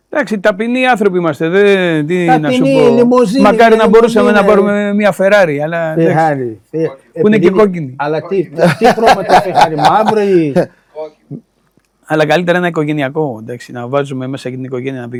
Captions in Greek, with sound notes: Εντάξει. Ταπεινοί άνθρωποι είμαστε. Δε τι να σου πω. Μακάρι να μπορούσαμε να πάρουμε μία Ferrari. Αλλά εντάξει που είναι και κόκκινη. Αλλά τι τι χρώματος [γέλια] χαρ μαύρο ή Όχι Αλλά καλύτερα ένα οικογενειακό εντάξει να βάζουμε μέσα και την οικογένεια να